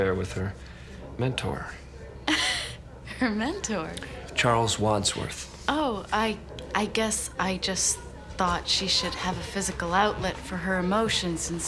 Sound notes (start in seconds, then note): 2.2 laughs